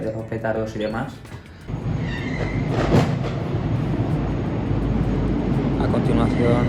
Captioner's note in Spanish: sonido de petardos